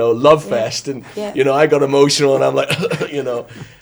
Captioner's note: coughs